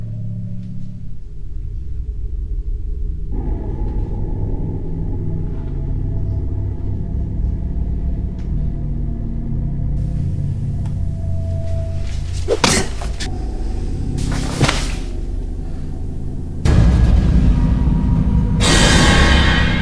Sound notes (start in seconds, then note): 12.6 object thudding; 17.1 tense music